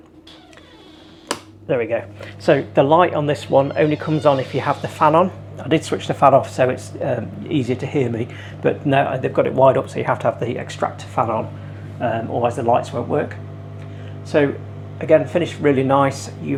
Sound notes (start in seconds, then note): 0.1 door creaks; 1.2 light switch clicks